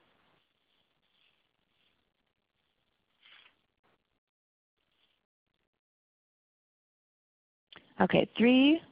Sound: silence

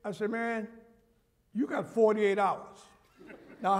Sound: laughter

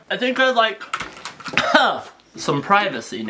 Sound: coughs

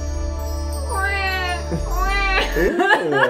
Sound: little crying

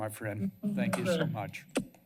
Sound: blows a kiss

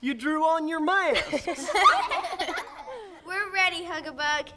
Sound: laughter

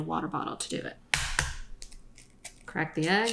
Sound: egg cracking

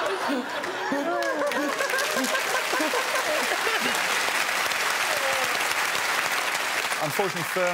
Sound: crowd applauds and cheers

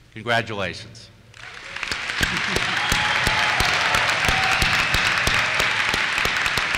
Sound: applause

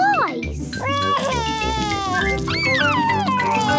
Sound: crying

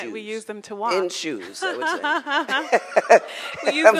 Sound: laughing

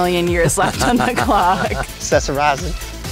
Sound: laugh

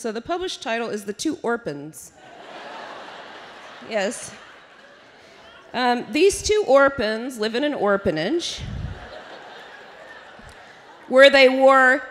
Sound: laughter

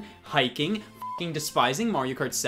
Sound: beep

